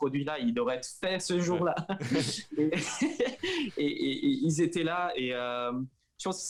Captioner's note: laughs